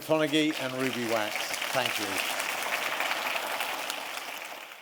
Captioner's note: applause